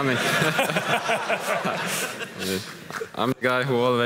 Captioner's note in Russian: смех